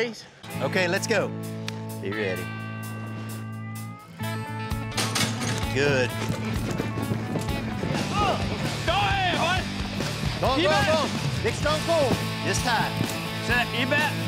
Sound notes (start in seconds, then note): 7.1 hoof beats